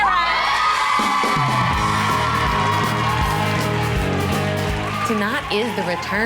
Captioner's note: cheerleaders cheer and applaud